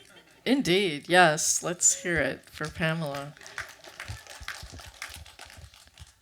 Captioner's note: clapping